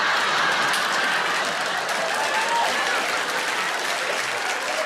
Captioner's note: audience laughs; audience applauds